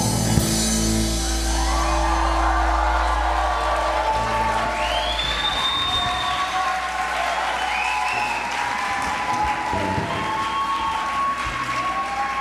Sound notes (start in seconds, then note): 1.4 applause; 1.8 cheers